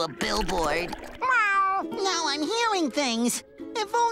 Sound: meowing

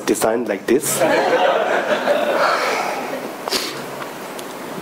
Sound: audience laughing

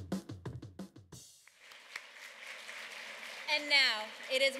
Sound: applause

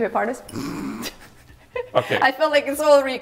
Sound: snorts; laughing

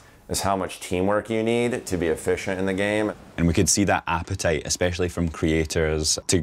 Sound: none

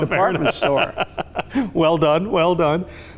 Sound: laughs

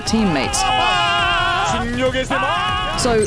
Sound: casters cheering

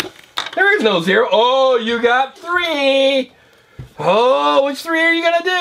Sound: voiceover

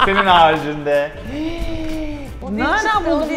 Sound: gasps

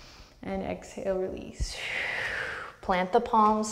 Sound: deep breath

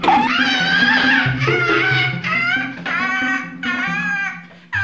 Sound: cawing

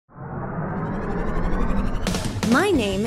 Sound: engine whirring

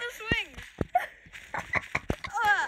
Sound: laughing

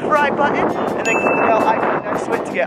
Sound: ding

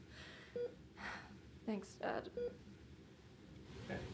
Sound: sigh

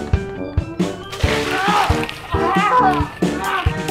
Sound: yelling

